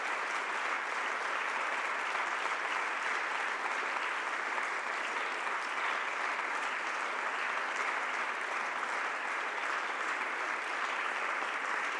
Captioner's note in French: le public applaudit